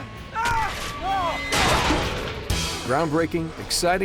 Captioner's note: screaming; crashing